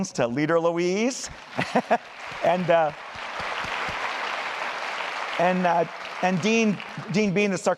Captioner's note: applause